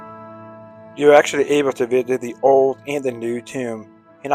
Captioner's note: voiceover